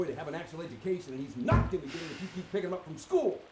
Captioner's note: Marks sighs